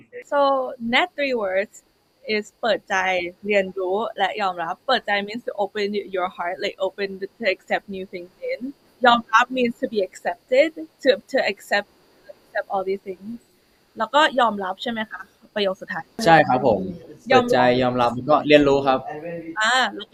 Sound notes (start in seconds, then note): 13.9 clarifying in Thai; 16.7 confirming in Thai